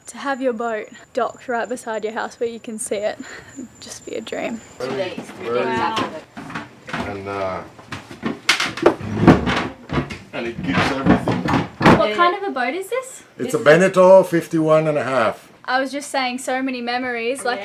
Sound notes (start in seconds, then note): 5.0 background chatter; 7.9 door closes loudly